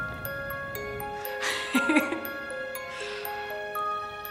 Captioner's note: laughing